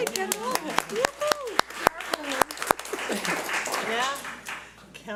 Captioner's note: audience applauds